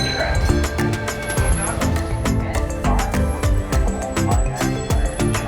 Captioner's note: trolley bell ringing; brakes screeching